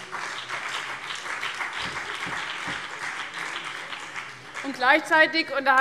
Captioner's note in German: Beifall CDU und BÜNDNIS 90/DIE GRÜNEN